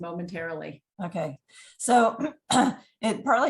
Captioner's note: clears throat